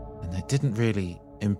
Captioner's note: none